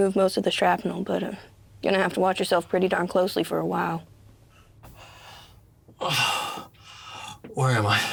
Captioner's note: sighs